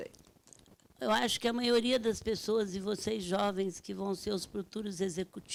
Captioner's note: speaking Portuguese